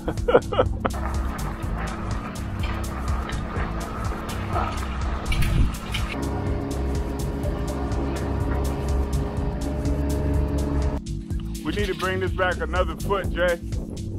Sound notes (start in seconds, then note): 0.0 laughs; 2.0 bright electronic music; 6.5 machine whirring